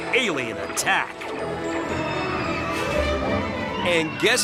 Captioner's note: riders screaming